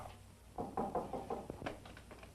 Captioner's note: knocking on door